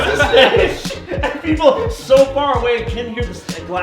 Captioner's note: laughing